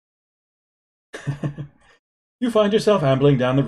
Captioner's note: chuckles